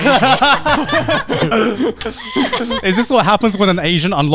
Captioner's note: everyone laughing